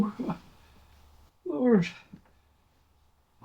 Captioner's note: moan